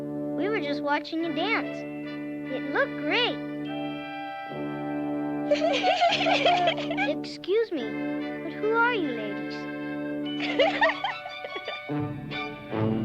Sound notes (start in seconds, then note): 5.4 laughing; 10.3 laughing; 12.8 upbeat music